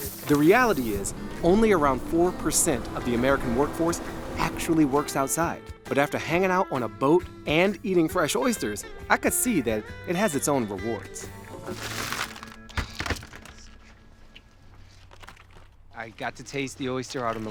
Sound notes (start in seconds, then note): 11.7 oyster shells clacking